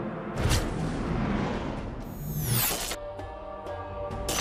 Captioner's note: dramatic tempo music; atmosphere whooshing